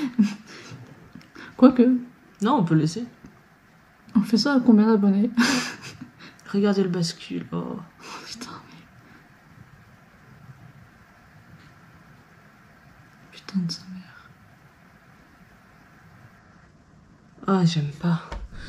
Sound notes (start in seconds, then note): 5.4 laughs; 8.2 whispers